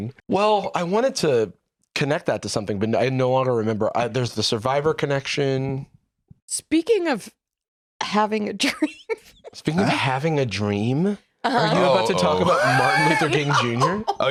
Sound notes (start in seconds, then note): 8.9 laughs